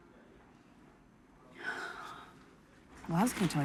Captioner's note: exhales